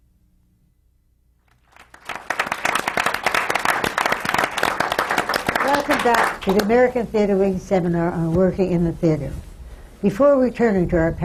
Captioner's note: applause